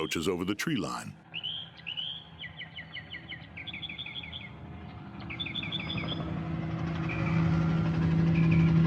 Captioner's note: helicopter whirring